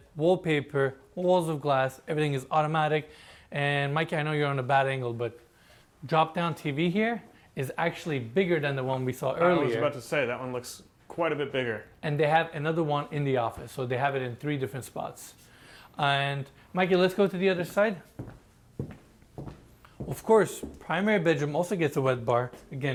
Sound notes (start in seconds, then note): 18.7 footsteps clicking